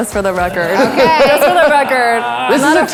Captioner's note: guests laughing